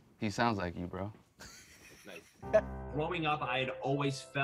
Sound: chuckling

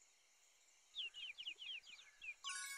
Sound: chirping

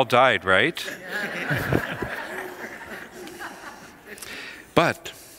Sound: congregation laughs

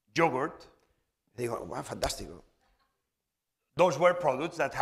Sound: speaking spanish

